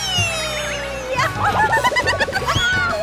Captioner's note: laughing